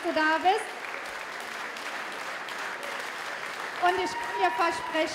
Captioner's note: applause